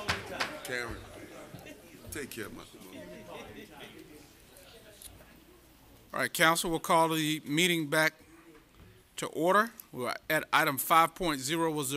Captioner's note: gavel